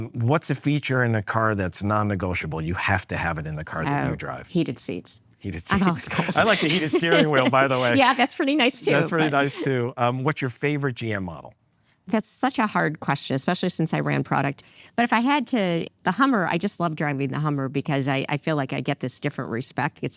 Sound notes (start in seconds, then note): 5.5 laughs